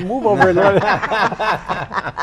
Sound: group laughs

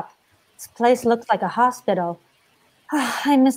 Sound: sighs

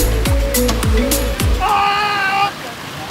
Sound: celebratory shouting

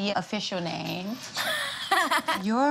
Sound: giggles

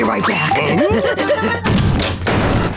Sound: door opening, closing

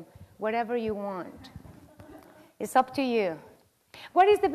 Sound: laugh

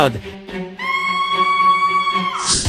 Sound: Peach screams

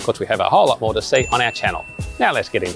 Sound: bell rings

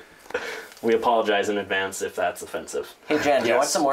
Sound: chuckles

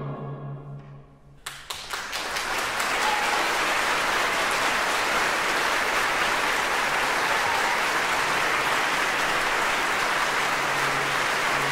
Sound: applause

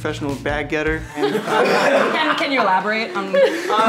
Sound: everyone laughs

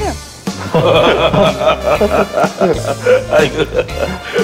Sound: laughing

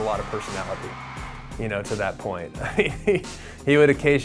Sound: laughs

